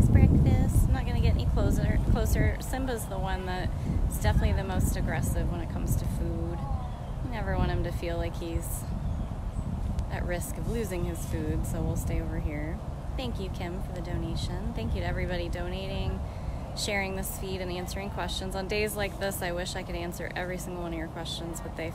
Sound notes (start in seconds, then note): none